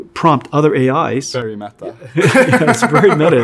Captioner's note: laughs